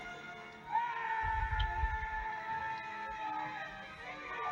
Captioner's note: screams in terror